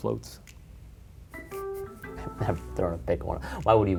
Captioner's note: chuckles